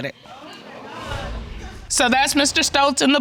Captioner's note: indistinct chatter in audience